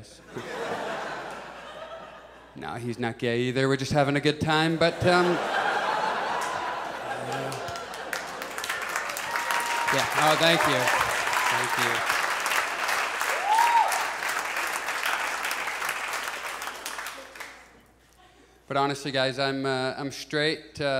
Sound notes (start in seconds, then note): 0.2 audience laughs; 4.6 audience laughs; 8.3 audience applauds; 11.6 audience applauds